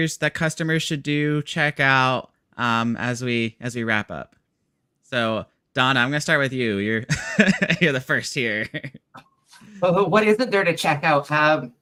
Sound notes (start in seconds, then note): 7.3 laughs